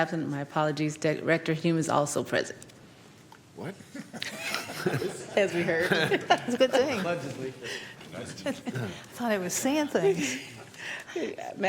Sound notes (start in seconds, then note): 6.9 laughter